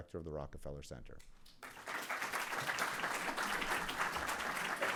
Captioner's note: applause